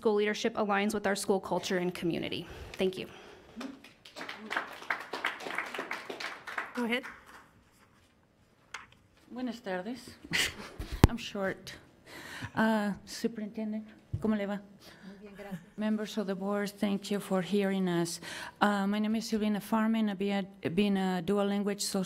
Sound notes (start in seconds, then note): 3.5 applause; 9.5 speaking a foreign language; 12.5 speaking a foreign language; 15.4 speaking a foreign language